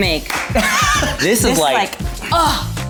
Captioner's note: laughs